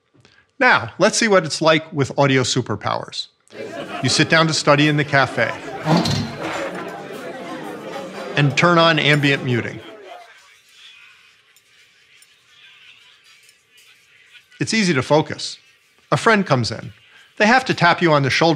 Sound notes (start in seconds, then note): 6.0 indistinct chatter; 10.4 chatter softens